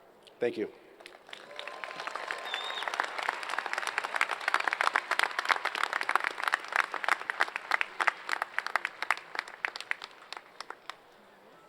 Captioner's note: applause